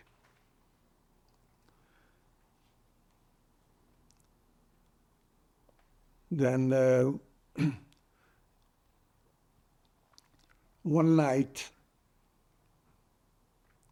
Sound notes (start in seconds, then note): 0.4 pauses 6 seconds; 7.5 clears throat